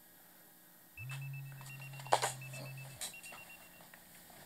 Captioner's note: pager ringtone